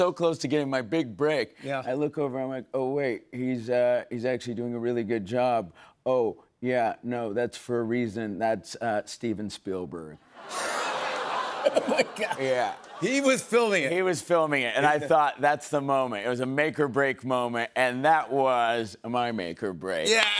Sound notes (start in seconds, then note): 10.4 laughter